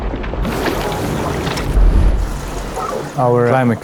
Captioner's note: water gushing